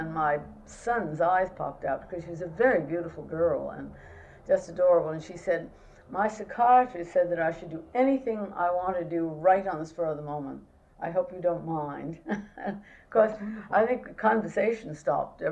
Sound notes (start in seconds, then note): 12.2 laughs